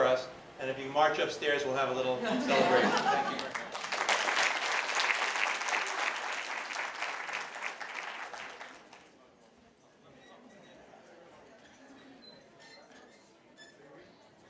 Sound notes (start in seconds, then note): 2.2 laughter; 2.7 applause